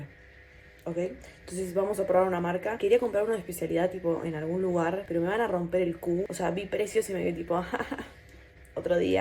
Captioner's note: nervous laugh